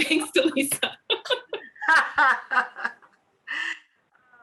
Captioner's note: laughing